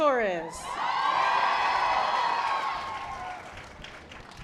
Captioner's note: audience applause